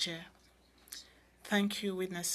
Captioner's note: speaking in French